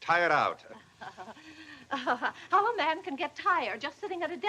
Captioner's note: chuckles